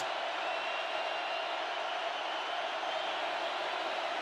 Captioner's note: crowd cheering